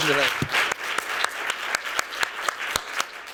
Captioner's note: applause